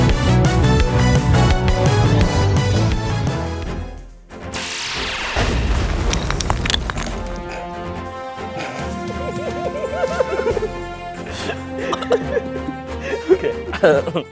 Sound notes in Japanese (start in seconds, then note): 8.8 笑い声